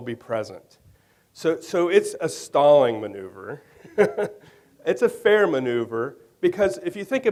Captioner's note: laughs